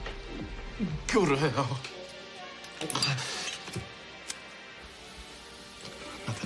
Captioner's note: straining